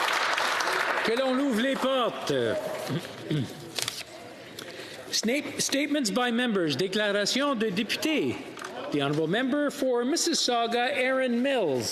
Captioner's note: applause